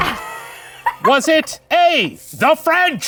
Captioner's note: laughing